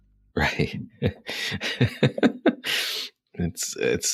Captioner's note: laughing